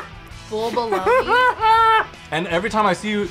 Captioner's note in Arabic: يضحك